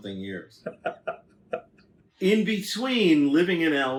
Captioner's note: laughs